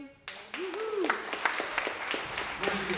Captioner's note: applause